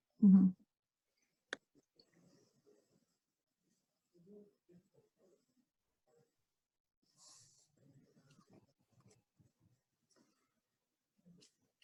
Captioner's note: silence